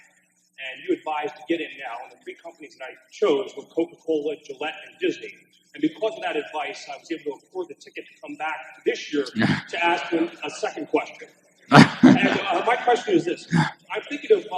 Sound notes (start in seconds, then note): 9.2 laughter; 11.7 Buffett laughs